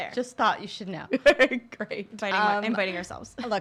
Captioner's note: laughs